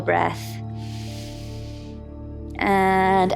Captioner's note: calm music; inhales